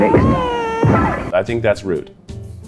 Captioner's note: baby cries; vase crashes